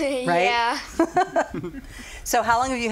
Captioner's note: laughing